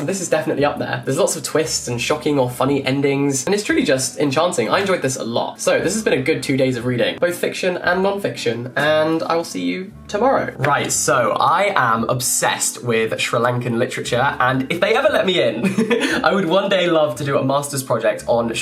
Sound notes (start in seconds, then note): 15.6 laughs